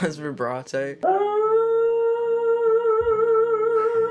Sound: dog howling

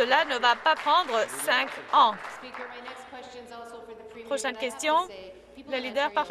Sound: some Applause

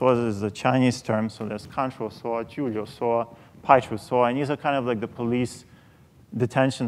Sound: speaking chinese

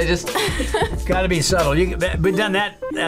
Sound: laughs

